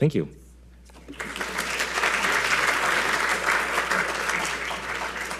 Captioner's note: audience applauding